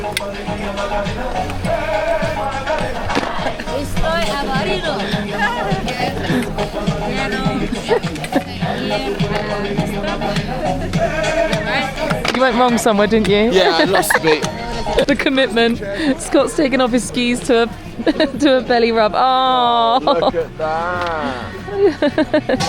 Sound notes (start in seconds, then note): 3.9 woman speaks Spanish; 8.7 people chatter